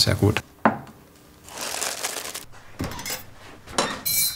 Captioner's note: rustling, metallic jingling